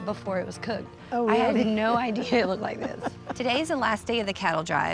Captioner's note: grandma laughs